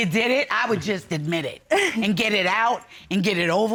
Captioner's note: chuckling